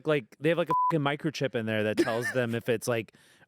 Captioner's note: beep